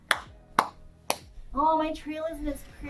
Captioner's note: claps